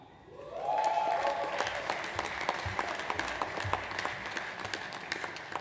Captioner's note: audience applauds